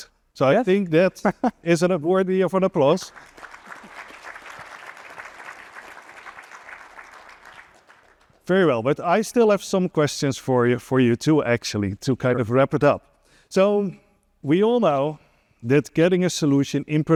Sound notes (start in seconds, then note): 2.9 applause